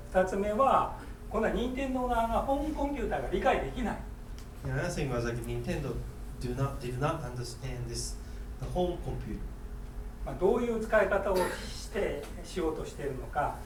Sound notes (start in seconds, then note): 0.2 speaking in foreign language; 10.4 speaking in foreign language; 11.3 coughing